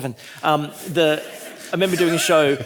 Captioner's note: audience laughing